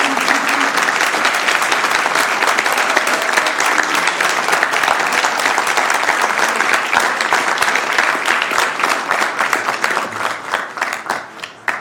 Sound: applause

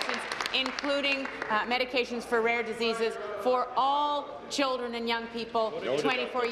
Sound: applause

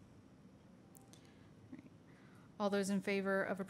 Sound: silence

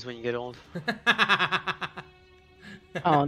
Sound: manic laughter

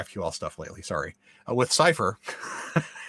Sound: laughs

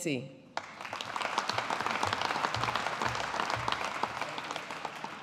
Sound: audience applauding

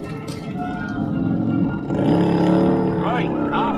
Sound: engine revving

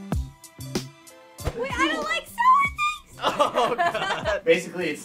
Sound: laughs

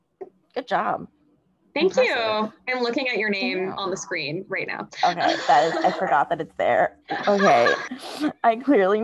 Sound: laughs

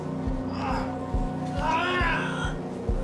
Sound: shouting

